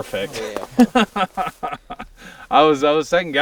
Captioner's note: laughs